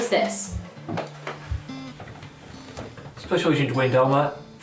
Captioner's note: office radio